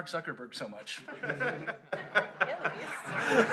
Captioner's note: laughter